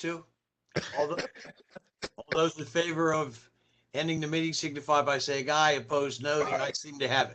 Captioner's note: laughter; laughter